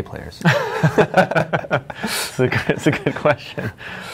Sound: laughing

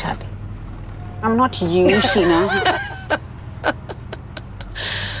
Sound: giggling

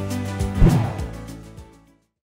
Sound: air whooshing

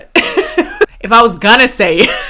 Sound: chuckles

